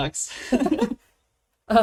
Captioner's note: laughs